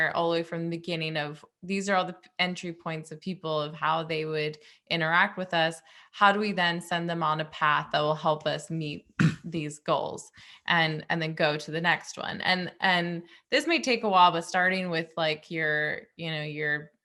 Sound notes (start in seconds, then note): 9.2 clears throat